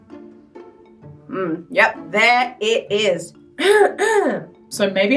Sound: clears throat

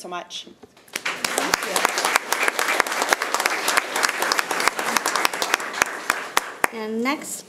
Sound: community applauds

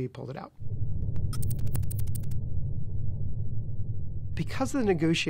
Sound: electronic typing

